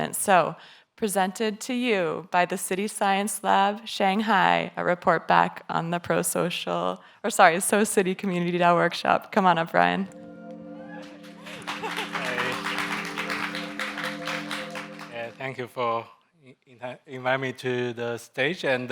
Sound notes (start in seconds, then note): 10.0 gentle electronic music; 10.8 audience members applauding